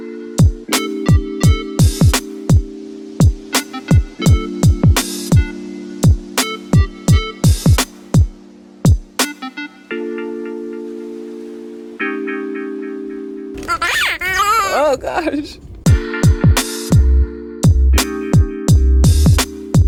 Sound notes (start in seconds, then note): 0.2 R&B instrumental music; 13.6 toy makes squeaking sound; 15.8 R&B instrumental music